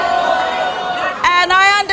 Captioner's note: audience boos